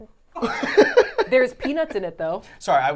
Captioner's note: laughing